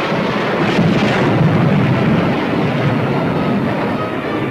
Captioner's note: weapons firing